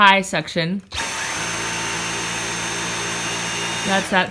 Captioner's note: vacuum noises